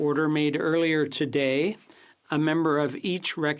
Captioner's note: speaking FRENCH